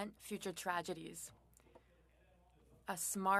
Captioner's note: speaking French